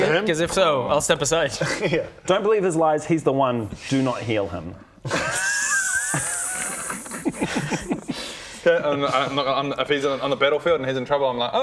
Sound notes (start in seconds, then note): 5.0 petty but fair snickering